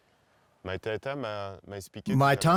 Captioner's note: speaking French